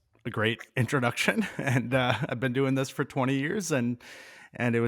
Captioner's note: chuckling